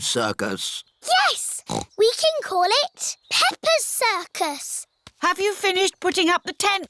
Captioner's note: snorts